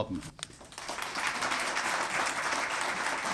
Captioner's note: applause